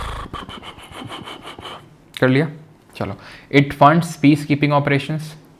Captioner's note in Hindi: हांफने की आवाज़